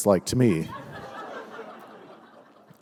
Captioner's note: laughter